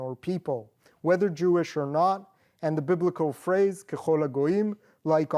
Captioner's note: non-english